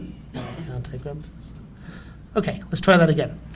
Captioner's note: mumbling to self